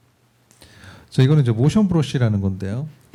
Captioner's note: speaking korean